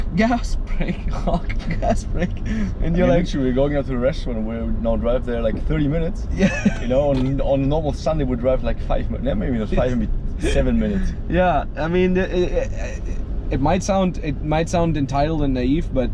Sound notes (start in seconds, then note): 1.0 laughs; 6.3 laughs